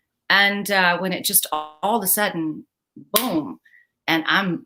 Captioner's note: claps